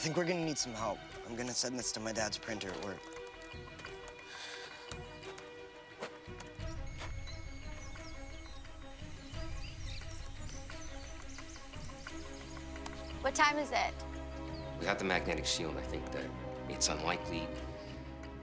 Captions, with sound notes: I think we're gonna need some help. I'm gonna send this to my dad's printer at work. (Michelle sighs) (modem screeching) What time is it? Without the magnetic shield, I think that it's unlikely...